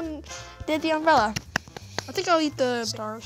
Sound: claps

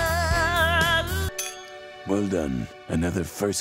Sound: glasses clinking

